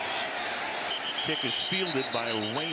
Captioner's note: whistle